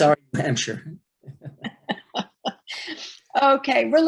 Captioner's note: laughing